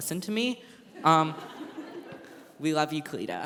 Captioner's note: laughter